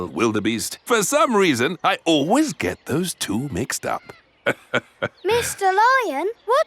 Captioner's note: laughs